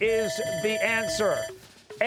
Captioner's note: bell ringing